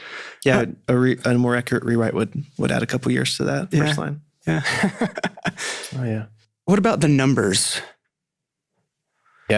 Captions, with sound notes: - And a more accurate rewrite would add a couple years to that first line. - Yeah, yeah [chuckling]. - Oh, yeah. - What about "The Numbers"?